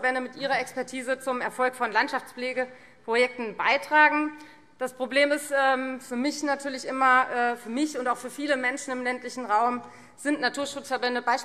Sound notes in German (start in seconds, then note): none